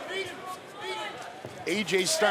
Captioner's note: yelling